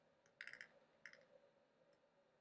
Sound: dial turning sound

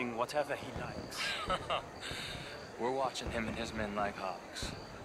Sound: laughs

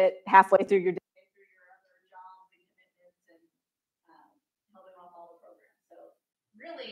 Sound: microphone cuts out

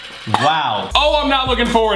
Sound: gagging

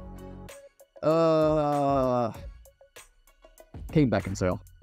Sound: groans

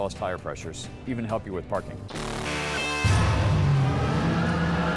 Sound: engine revs, tires screech

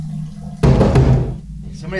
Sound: bang on door

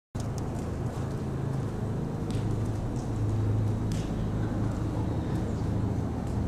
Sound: horse walking through arena dirt

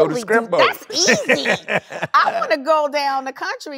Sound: both laughing

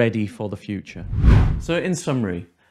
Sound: air whooshing

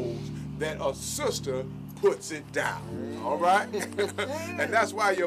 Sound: chuckling

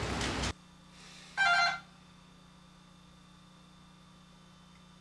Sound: door bell rings

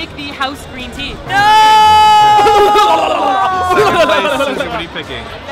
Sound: evil laughs

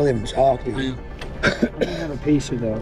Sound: coughing

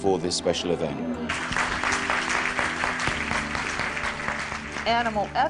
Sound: clapping

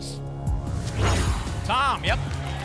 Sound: whoosh

